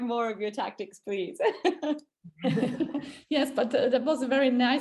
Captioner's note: all chuckling